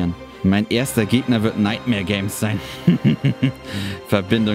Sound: menacing laugh

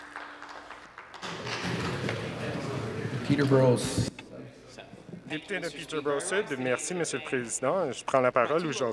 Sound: some Applause

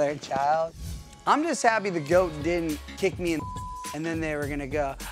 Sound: beep

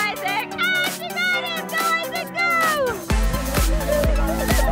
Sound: kids yell

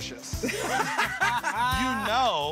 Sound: laughter

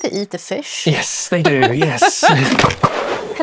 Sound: laughs

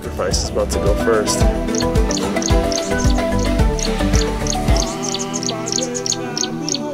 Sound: upbeat music; ducklings chirping

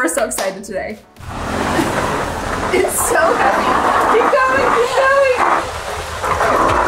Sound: bin dragging

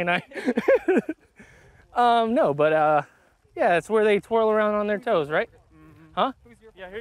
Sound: laughs

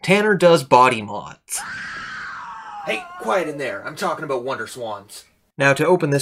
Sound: scream

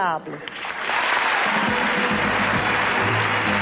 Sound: applause, music

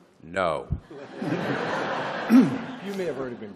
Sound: laughter

